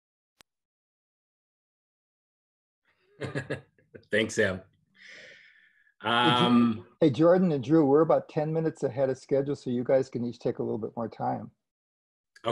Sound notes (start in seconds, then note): 3.2 laughter